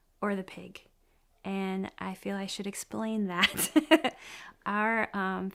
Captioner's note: laughs